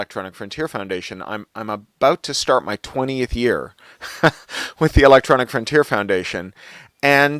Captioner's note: laughs